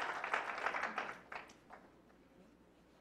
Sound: clapping

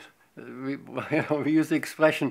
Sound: laughs

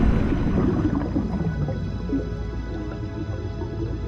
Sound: water gurgling; inspiring music

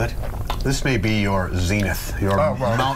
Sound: crunching

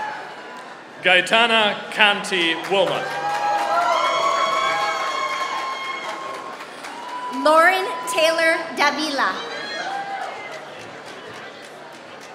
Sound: applause

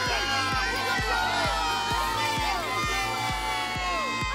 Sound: all cheering

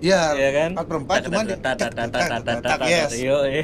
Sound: imitating beats

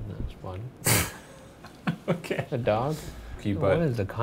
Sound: laughs

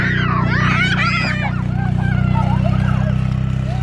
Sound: shrieking

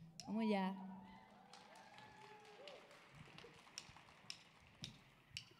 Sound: audience applauding

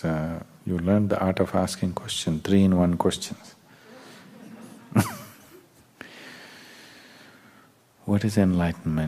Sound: laughter

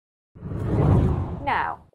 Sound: screen whooshing

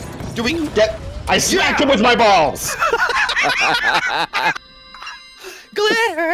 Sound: group laughter

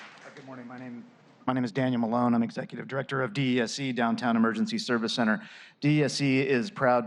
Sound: applause

